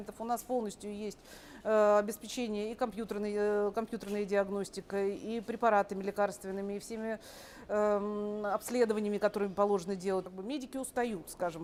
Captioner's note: speaking russian